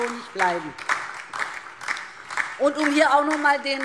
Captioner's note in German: Beifall DIE LINKE und SPD